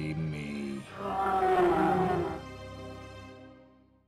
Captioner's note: The Bruiser bellows